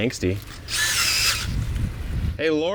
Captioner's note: auger whirring